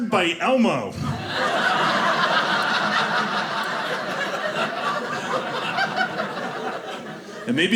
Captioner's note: audience laughing